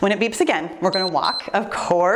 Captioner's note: timer beeps